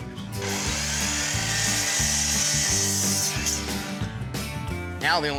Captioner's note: sawing